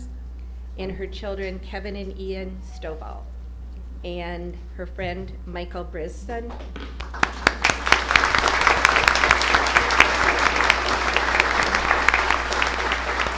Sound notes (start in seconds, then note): 9.9 applause